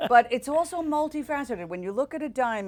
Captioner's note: laughter